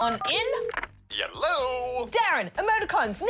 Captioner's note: buttons beep, line rings